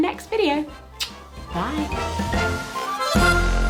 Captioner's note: smooches; upbeat vintage music